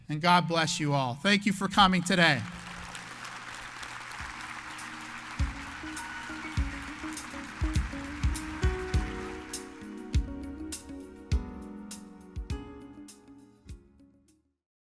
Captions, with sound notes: and God bless you all. Thank you for coming today. (audience applauds) (mellow guitar music)